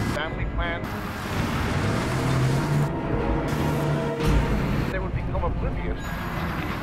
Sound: dramatic music; radio chatter

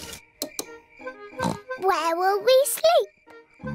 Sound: oinks

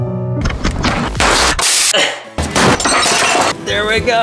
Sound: slow music; clattering

